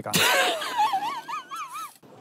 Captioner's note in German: Lachen